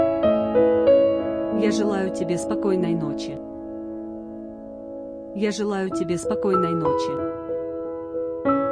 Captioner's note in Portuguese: russo